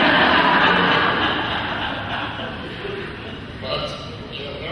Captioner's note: laughing